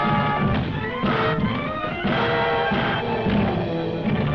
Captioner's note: desk thudding